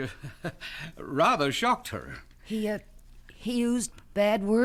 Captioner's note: chuckles